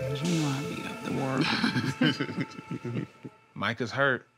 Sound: laughter

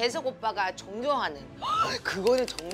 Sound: gasp

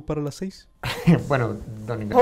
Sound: laughs

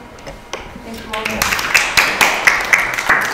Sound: applause

